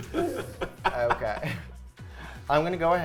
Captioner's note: laughing